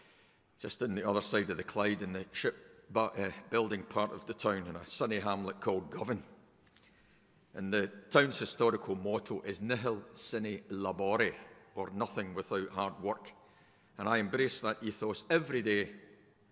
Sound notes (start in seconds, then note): 9.3 speaks in foreign language